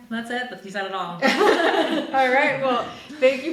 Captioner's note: group laughing